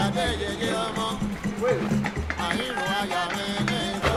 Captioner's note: man Shouts